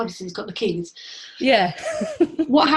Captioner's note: laughs